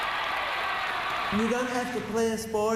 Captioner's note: cheers and applause